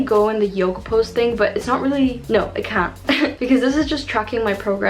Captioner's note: chuckles